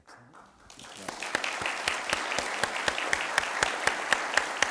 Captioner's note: audience applauds